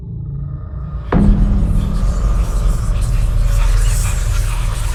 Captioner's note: ghostly whispering